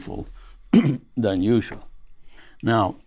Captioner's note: clears throat